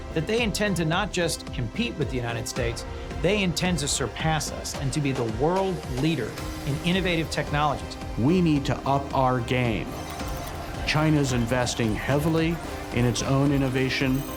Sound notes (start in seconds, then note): 10.0 computer calculating sound effect